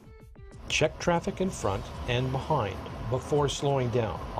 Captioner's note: voiceover